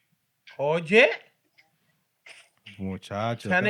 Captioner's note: non-english Speech